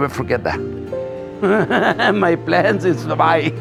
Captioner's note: laughs